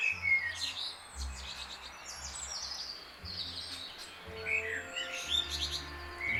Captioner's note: birds sing